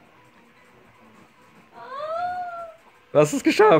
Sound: squeals

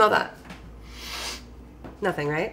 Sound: sniffs

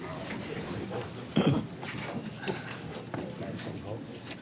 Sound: murmurs

